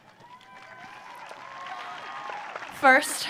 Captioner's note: audience cheering